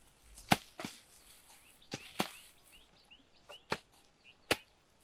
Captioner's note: hoes clashing